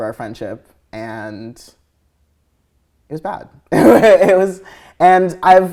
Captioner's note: laughing